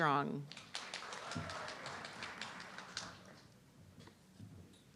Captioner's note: audience clapping